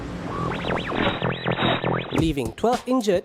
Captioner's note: transistor static; radio